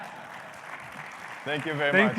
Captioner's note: audience laughs and applauds